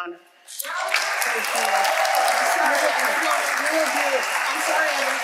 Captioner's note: audience applauding